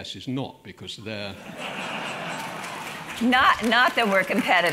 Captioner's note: laugh